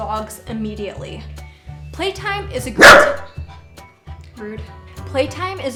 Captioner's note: bark!!!